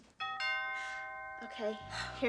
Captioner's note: doorbell ringing